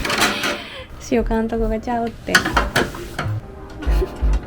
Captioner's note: laughs